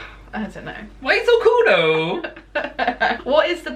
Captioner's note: laughter